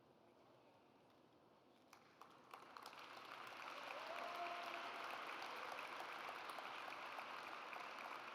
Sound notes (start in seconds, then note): 2.3 audience applauds